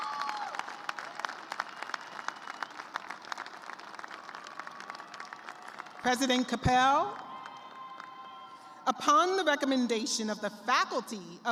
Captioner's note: cheers and applause